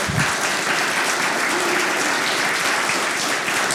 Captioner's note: applause